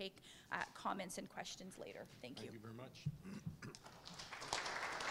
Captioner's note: applause